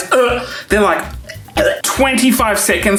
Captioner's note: gags